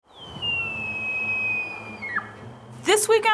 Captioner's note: elk calling